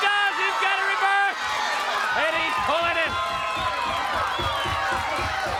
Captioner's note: crowd cheering